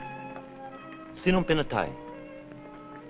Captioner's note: non-english speech